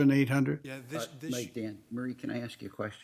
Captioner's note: overlapping chattering